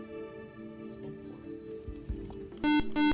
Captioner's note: buzzer